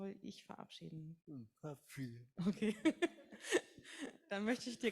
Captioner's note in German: lacht